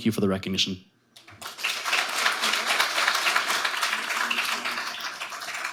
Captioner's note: audience applauding